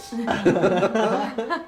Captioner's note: laughs